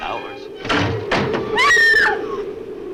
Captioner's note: window shutter thuds; Ann screams; wind howls